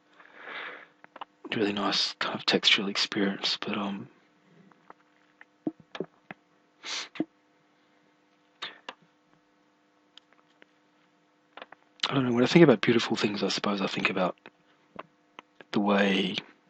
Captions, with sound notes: A really nice textural experience, but um [sniff] I dunno, when I think about beautiful things I suppose I think about The way